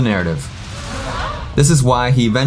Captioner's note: audience gasp sound